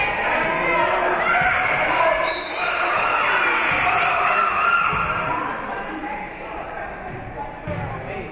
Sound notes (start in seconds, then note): 2.2 whistle being blown